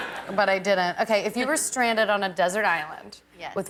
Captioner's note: laughter